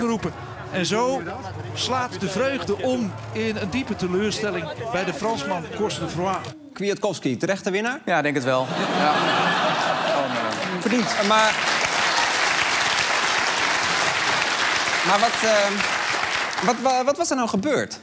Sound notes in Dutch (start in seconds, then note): 8.4 applaus; 8.6 gelach